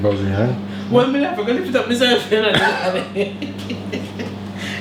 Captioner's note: laughs